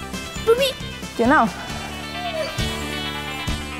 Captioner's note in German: Leises Winseln